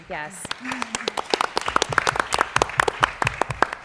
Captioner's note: applause